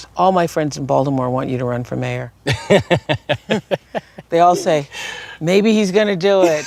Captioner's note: laughter